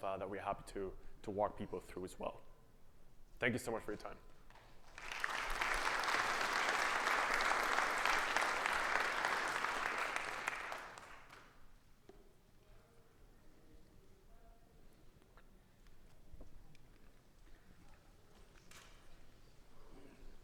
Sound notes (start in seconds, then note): 4.5 audience clapping